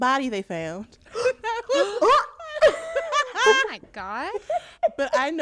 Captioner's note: laughter